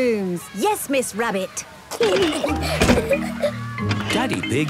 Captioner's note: giggling